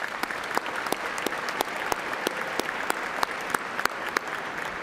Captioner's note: applause